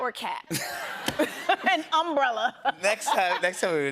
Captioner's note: laughter